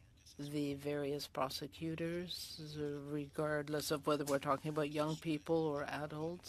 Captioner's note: speaking French